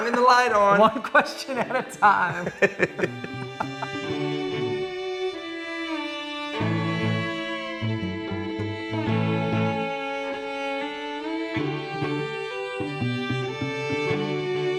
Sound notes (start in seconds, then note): 2.8 laughing; 4.8 melodic music